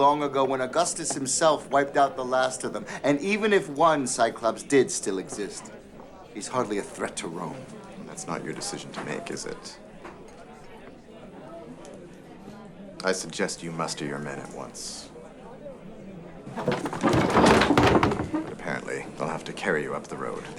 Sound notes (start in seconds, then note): 16.4 chair clatters